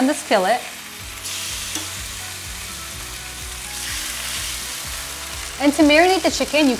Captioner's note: chicken sizzling in pan